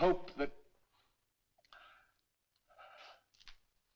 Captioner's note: sighs